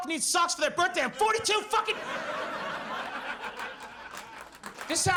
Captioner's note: audience laughs